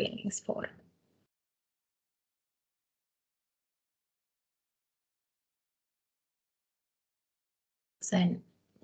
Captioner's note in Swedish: Tystnad